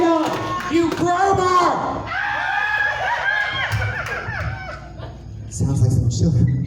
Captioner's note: audience in hysterics